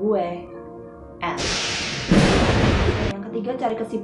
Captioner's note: thunder